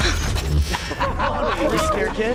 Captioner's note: students laughing